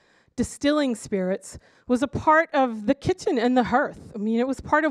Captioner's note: none